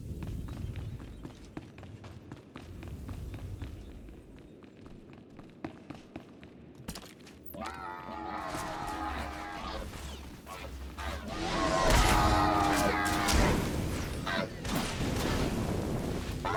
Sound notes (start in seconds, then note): 1.5 gun shots; 10.4 roaring; 14.7 gun shots